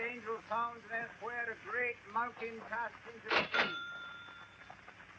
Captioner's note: register dings